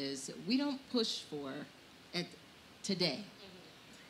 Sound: murmurs

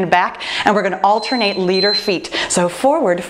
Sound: timer beeping

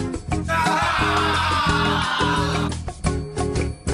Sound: shout

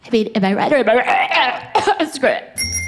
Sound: gags

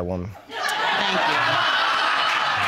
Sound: audience laughing

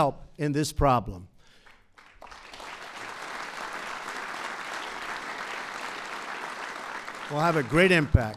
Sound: applause

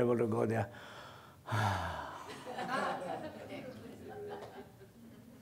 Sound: sighs

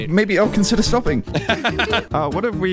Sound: laughing

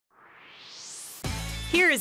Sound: swoosh

